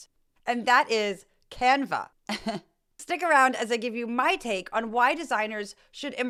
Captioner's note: laugh